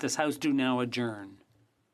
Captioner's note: speaking French